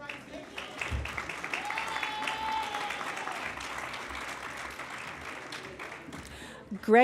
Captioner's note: applause